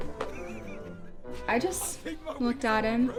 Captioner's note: laughing